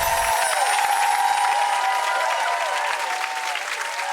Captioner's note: crowd cheering